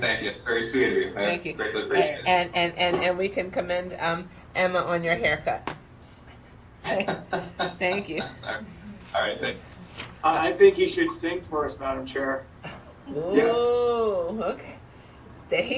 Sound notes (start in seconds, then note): 6.9 laughs